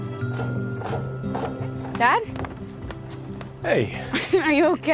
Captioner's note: footsteps approaching